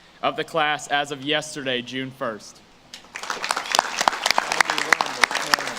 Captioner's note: audience claps